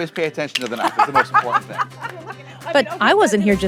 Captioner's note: laughs